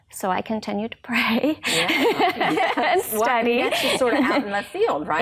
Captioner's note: laughs